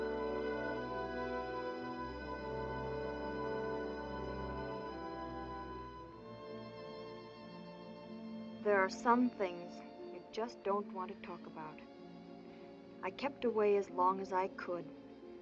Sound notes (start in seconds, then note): none